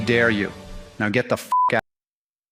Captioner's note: beep